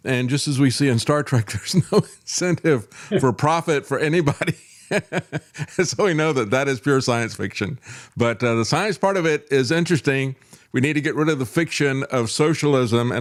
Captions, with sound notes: And just as we see in Star Trek, there's no incentive for profit for anybody. (Laughs) So we know that that is pure science fiction. But the science part of it is interesting. We need to get rid of the fiction of socialism.